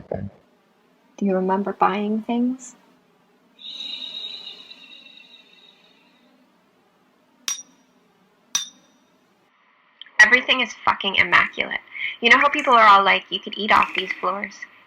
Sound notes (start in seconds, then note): 3.4 electronic pulse; 8.5 hammering